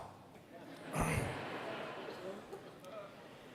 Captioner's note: laughter